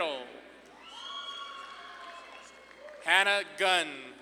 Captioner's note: audience claps and cheers